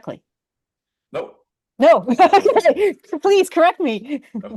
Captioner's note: laughs